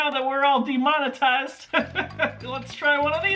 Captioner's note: laughter